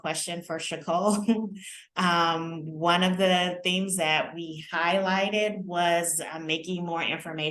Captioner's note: laughter